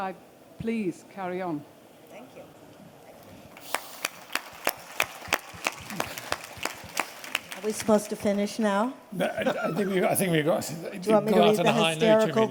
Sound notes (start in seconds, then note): 3.5 applause; 9.2 laughs